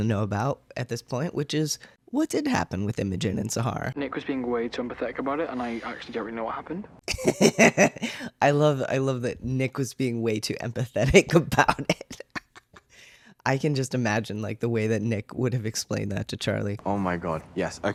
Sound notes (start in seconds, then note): 7.1 laugh